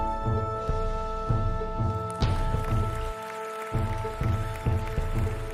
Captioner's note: audience applauding; soft music